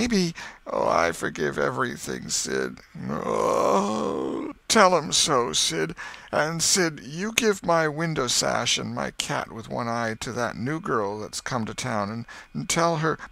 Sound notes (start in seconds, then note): 2.7 groan